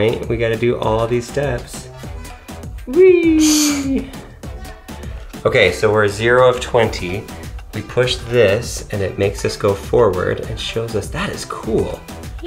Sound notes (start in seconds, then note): 2.9 laughs